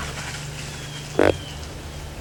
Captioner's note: sound of grunt